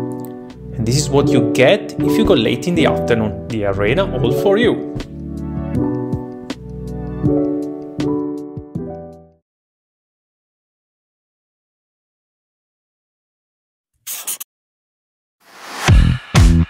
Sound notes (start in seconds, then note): 5.0 chill instrumental music; 14.0 marker scribbling; 15.7 upbeat instrumental music